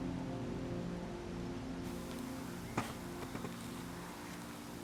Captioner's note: crickets chirping